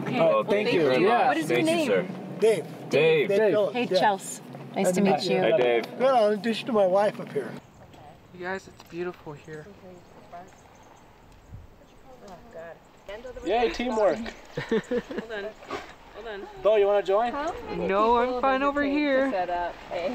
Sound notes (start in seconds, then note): 10.1 chattering; 14.2 chuckles